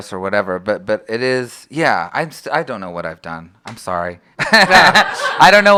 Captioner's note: laughter